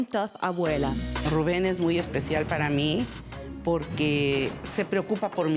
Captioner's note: speaking Spanish